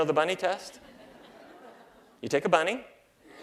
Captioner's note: laughter